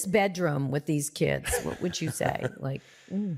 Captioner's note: chuckles